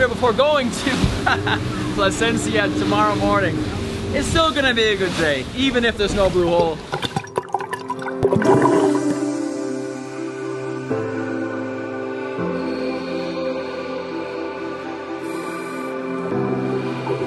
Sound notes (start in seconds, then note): 7.2 bubbling water; 9.8 electronic music